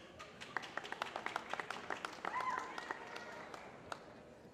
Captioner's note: applause